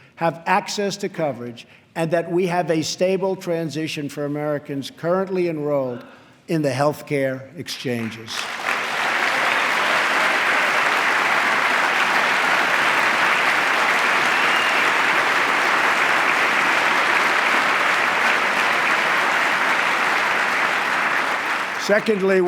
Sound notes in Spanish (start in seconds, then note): 9.5 aplauso